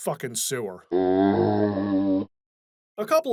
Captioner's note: zombie groan